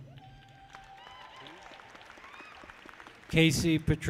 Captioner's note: people cheer